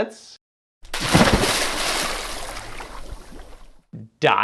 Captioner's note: water splashing